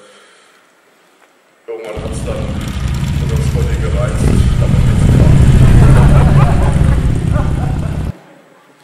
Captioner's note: loud motorbike noise can be heard